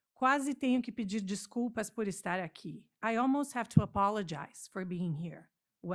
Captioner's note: non-english speaking